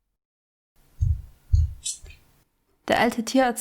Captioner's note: footsteps are approaching